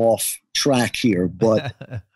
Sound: laughs

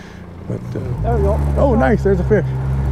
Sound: boat engine running

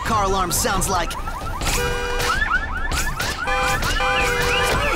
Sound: many car alarms wailing

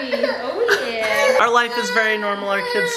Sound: crying

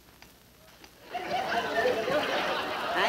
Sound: audience laughing

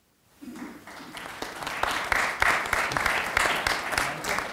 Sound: audience applauding

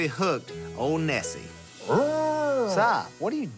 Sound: simulated howl

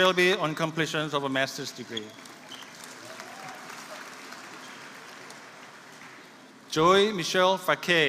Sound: applause

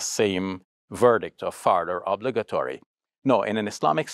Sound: speaks Arabic

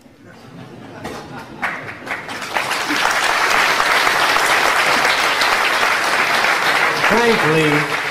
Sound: laughter, then applause

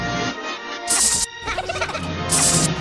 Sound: Minions Laughing

